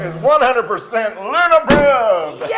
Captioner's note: laugh